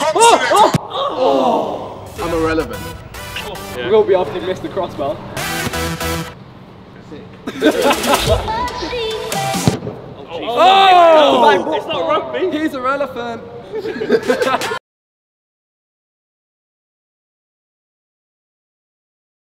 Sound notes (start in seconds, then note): 0.1 upbeat music; 5.9 upbeat music; 7.4 all laughing